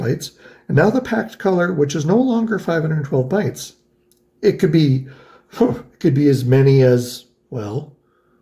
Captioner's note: huffs